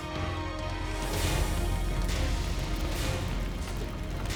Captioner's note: impacts boom